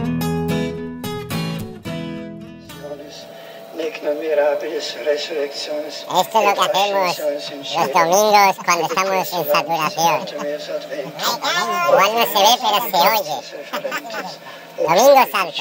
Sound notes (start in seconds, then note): 12.4 laughs